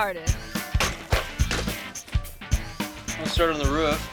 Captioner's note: toy crashing